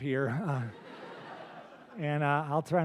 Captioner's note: laughter